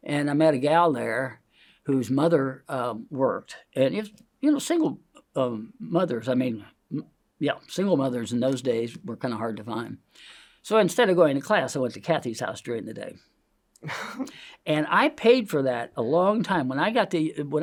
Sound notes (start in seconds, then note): 10.1 inhales; 13.8 laughs